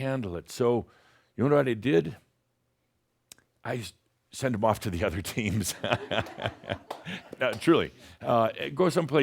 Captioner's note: chuckles